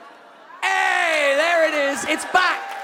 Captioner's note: audience whoops and claps